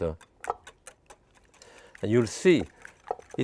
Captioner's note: whisk clattering